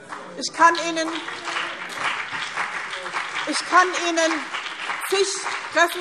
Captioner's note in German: Beifall BÜNDNIS 90/DIE GRÜNEN und CDU